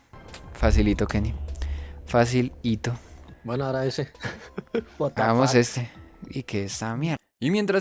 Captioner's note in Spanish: Risas